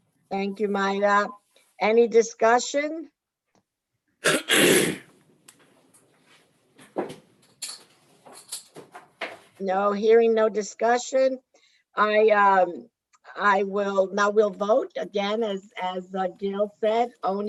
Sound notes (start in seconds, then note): 4.2 clears throat loudly